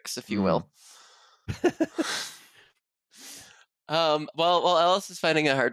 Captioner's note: laughs